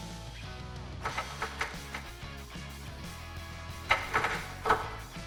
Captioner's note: tools banging and twisting